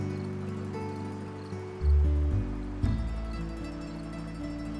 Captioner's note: crickets chirping